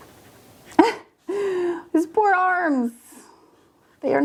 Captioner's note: chuckles